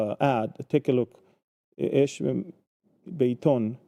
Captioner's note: speaking in Hebrew